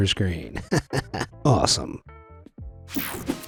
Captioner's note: chuckles